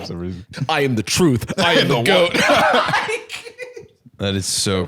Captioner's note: both laughing